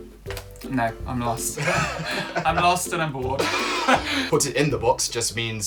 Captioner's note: laughter